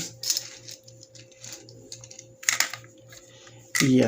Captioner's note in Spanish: Silencio